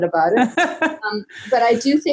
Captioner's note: laughing